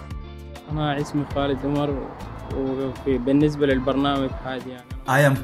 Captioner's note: speaking in Arabic